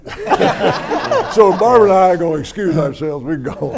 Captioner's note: everyone laughs